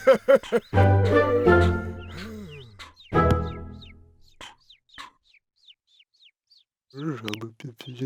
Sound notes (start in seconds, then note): 2.9 birds chirping